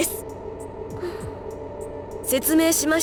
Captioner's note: unsure breath